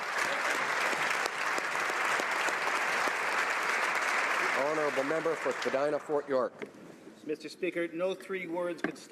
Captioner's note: applause